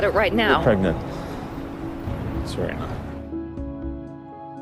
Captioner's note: voiceover